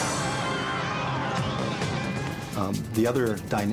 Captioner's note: screaming and wails